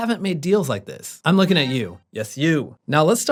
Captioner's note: siren blaring